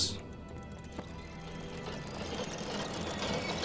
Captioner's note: gears rattling